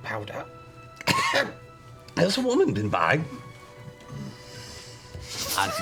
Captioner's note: coughs